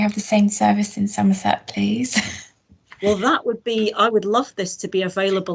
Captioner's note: laughs